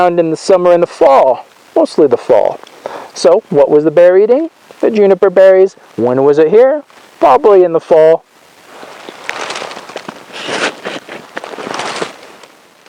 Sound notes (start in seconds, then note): 8.5 leaves crunch